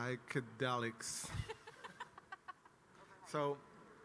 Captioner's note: laughs